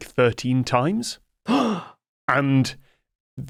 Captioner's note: gasps